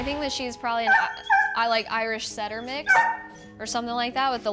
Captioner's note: dog yelps